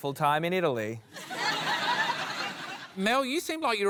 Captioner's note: laughter